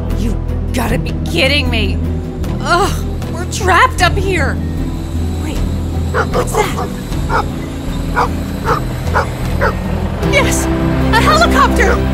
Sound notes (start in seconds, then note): 3.0 whirring; 8.1 Sandy barks